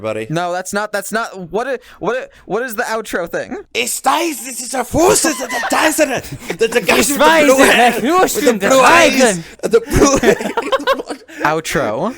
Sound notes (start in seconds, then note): 3.9 starts shouting German for the 4th time this episode